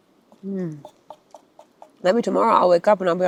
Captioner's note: pot clacking